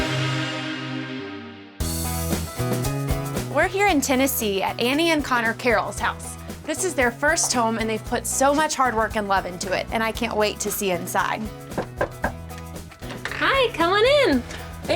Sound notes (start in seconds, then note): 2.0 country pop music; 11.7 knocking